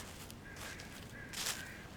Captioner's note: crows cawing; leaves rustling